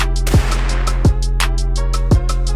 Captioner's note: expectant music; gun fires